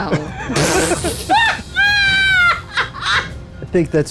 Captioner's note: group laughs